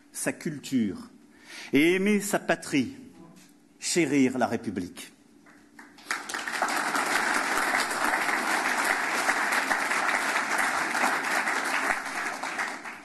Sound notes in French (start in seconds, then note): 5.4 Applaudissements